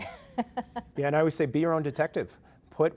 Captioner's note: chuckling